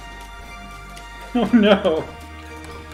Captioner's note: laughing